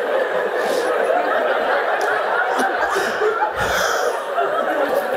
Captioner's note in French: Le fou rire continue